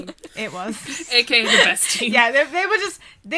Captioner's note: hosts laugh